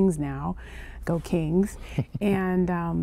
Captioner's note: laughter